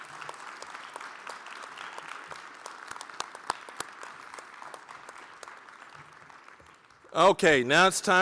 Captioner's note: applause